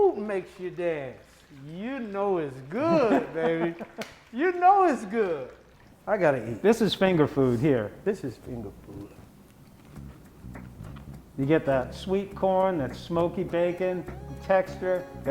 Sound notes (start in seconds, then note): 2.8 laughing; 7.9 soft classical music